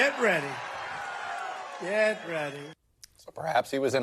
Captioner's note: cheering and applause